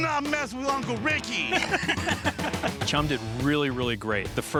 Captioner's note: Rick laughing